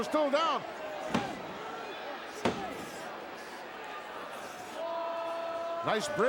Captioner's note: crowd murmuring; hand slapping